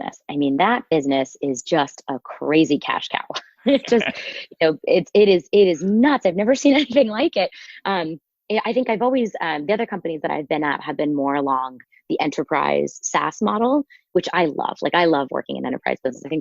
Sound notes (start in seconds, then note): 3.3 laughing